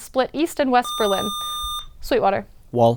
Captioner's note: buzzer